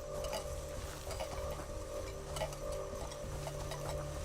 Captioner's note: cup clanking